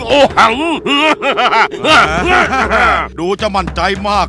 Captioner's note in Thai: หัวเราะ